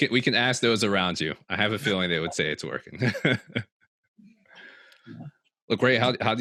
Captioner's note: chuckles